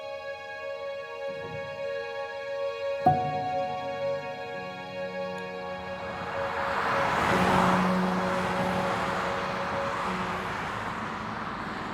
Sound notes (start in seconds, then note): 0.0 light piano music; 8.7 highway noise